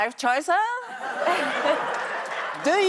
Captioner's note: audience laughs